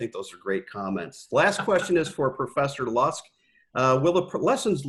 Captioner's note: laugh